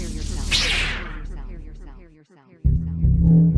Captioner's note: sword crackles; tense electronic music; sword whooshes